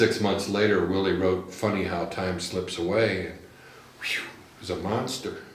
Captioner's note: whistles